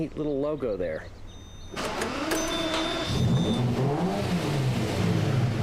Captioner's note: engine turning, revs